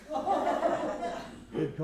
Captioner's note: laughter